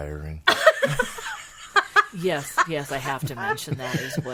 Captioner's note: all laughing